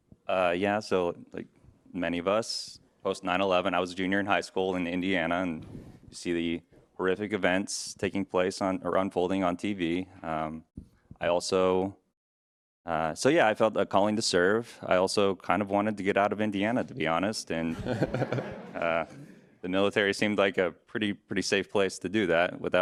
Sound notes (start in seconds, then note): 17.8 audience laughs